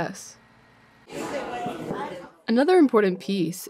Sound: people chattering

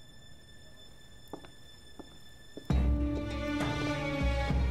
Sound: footsteps

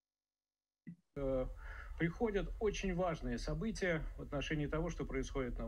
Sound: speaking in Russian

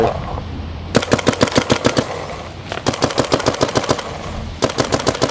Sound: shooting sounds

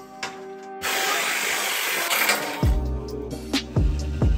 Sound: bzzzzz

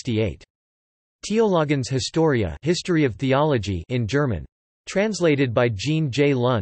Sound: in German

